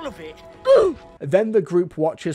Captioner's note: Ooofs in Roblox